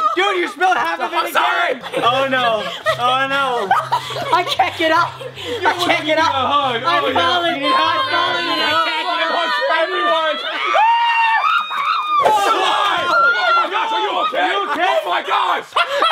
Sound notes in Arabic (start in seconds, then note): 10.6 الكل يصرخ; 15.8 يضحك